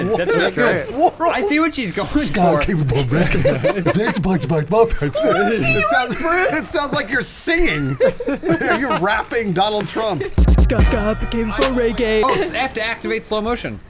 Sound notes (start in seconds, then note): 0.0 laughing; 7.8 laughing